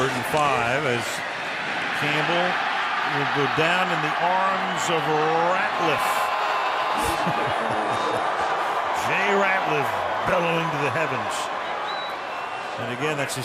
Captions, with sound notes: Third and 5 as Campbell will go down in the arms of Ratliff. [screams] [laughs] Jay Ratliff bellowing to the heavens.